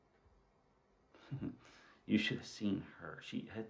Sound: chuckles

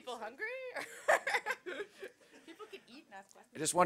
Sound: laughs

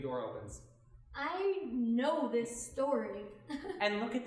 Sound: laughing

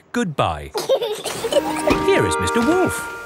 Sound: both laughing

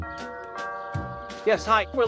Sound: doorbell

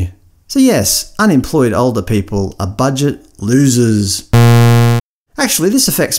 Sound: bzzz

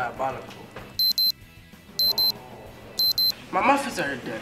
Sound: timer beeps

